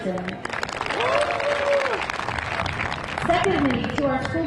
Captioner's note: crowd applauding; crowd cheering